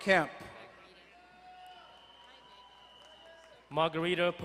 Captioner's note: distant cheering